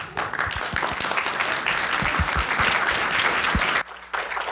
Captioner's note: audience applauding